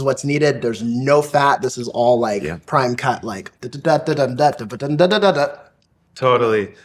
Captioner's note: mimicking trumpet